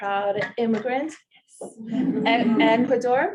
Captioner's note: audience laughing